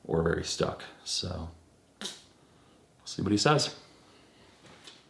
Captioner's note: sucking lip